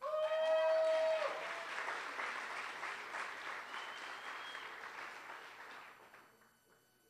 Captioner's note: applause